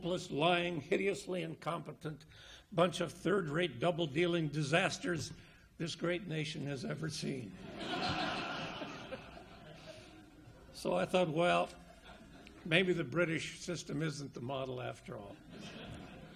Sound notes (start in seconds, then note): 7.6 audience laughs; 8.3 laughs